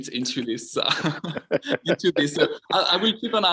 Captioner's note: all laughing